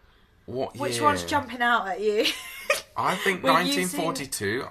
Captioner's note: laughs